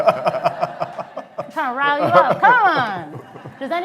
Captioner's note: laughter